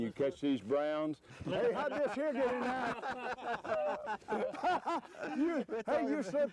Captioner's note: laughter